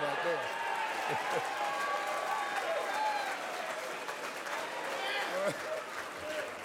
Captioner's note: crowd cheers